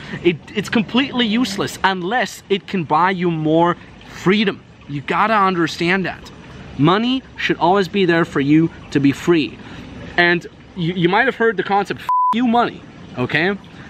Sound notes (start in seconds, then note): 12.0 beep